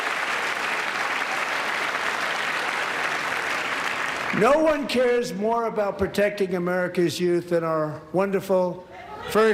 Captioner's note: applause